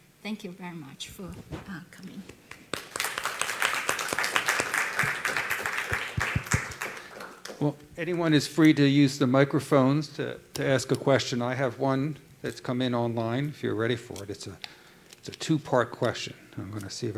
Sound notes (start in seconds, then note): 8.1 applause